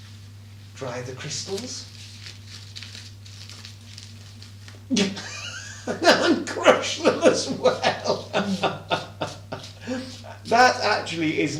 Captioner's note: laughing